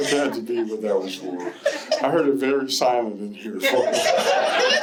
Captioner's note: laughter